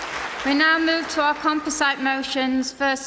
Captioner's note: applause